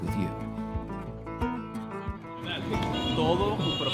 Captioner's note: speaking Spanish